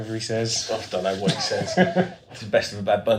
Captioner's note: laughs